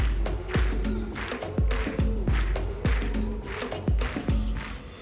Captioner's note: clapping